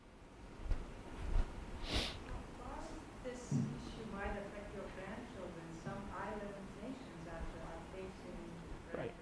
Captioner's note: voiceover